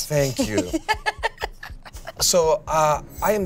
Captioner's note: laughs